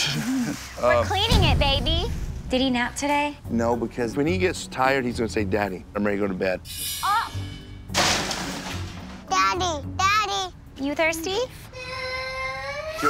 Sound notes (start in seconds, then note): 7.8 crashes; 11.7 crying